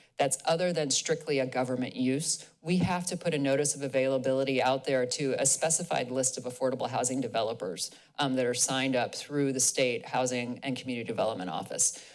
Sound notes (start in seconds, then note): none